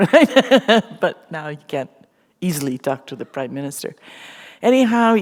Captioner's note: chuckle